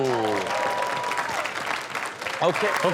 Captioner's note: audience cheering and clapping